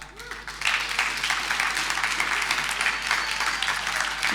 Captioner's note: audience applauding